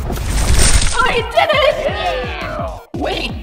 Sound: everyone cheers

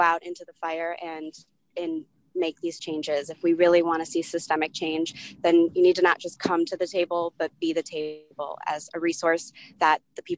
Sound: distorted audio

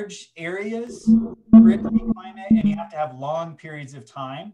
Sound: beeping drowns speaker

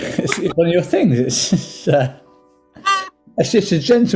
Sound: laughing

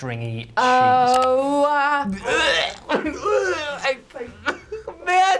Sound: gags

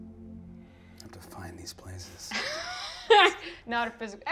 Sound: quietly

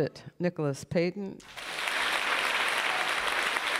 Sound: applause

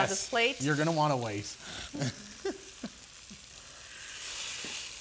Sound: chuckles

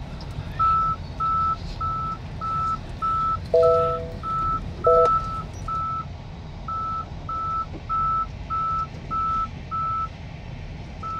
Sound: Tesla safety noises

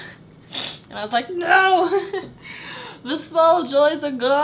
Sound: chuckles

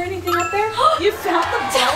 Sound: chime

